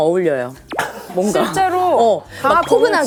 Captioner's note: cough